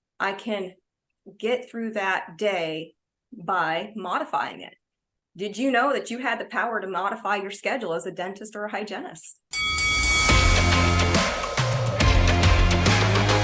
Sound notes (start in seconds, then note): 9.5 bell ringing; 9.6 upbeat music